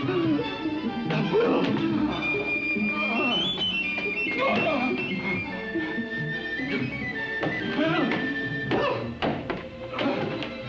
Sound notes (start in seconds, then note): 4.3 Kurt groans; 6.0 dramatic ominous music